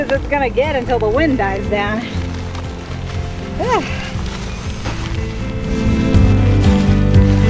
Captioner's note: sighs